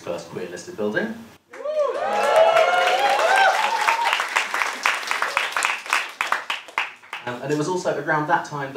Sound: cheering

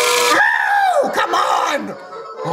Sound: yells

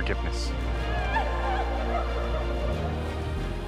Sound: sound of wailing people; orchestral music

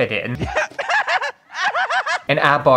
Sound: hysterical Laughter

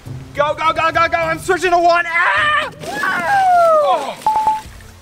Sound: yells

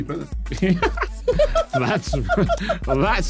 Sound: laughing

